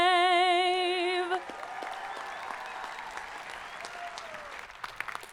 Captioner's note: audience applauding